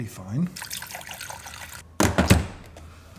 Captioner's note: water sloshes